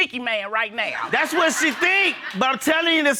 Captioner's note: audience laughing